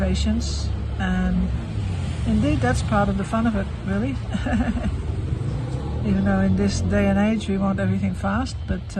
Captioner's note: laughs